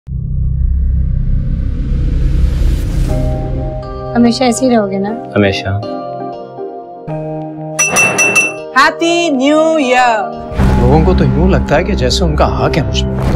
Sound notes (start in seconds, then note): 7.8 clinking sound